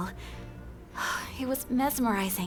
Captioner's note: sighs